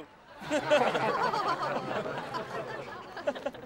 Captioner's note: laughing